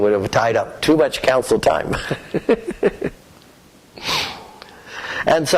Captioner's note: laughter